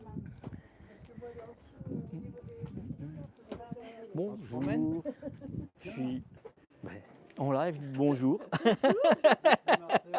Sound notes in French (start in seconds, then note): 8.4 rires